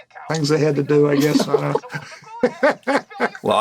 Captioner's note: laughter